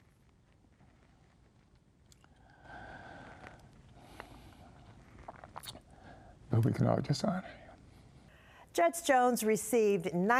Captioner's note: sighing